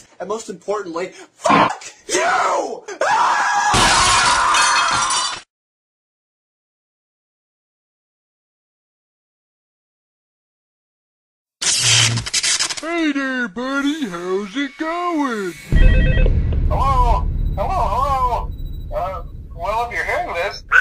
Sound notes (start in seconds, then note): 2.9 screaming; 11.6 glitch